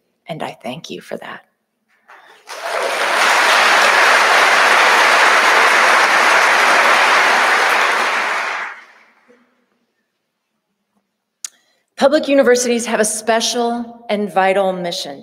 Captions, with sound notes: and I thank you for that. (audience applauding) Public universities have a special and vital mission